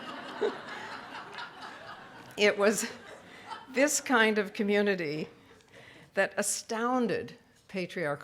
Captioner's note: roaring laughter from audience